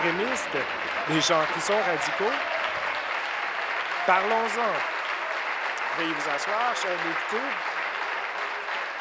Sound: applause

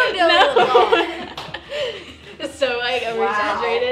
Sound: laughing

